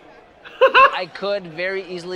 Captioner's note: laughs